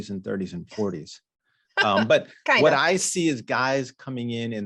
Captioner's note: chuckles